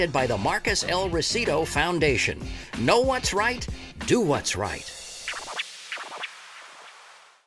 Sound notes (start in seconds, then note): 5.0 tape scratching musically